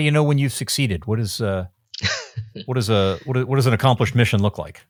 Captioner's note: laughing